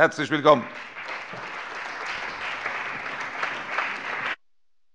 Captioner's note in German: Allgmeiner Beifall